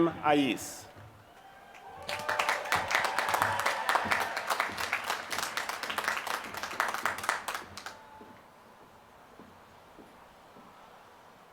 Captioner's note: applause